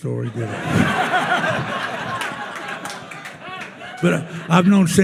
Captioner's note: attendees laughing